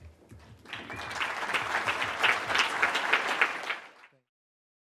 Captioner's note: audience clapping